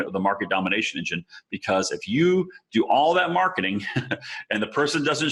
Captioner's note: chuckling